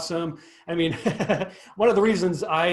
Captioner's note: laughs